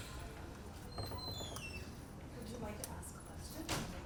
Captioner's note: door squeaks